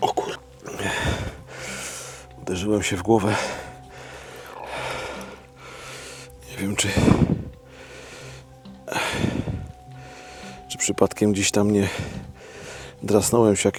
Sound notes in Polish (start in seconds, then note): 0.7 westchnienie; 3.1 wciągnięcie powietrza; 8.9 westchnienie